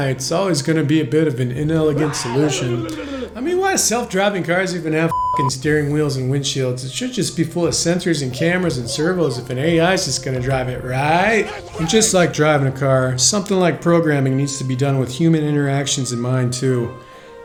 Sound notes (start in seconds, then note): 5.1 beeping